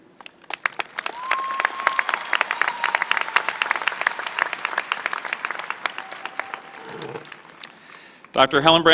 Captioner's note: applause